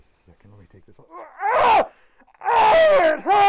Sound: screaming in pain

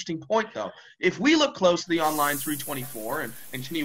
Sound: shower starts

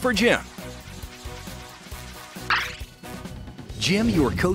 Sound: wheel spinning

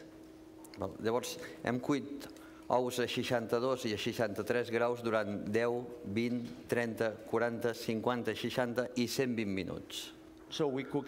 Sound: speaking catalan

